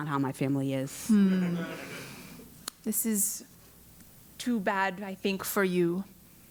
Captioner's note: laugh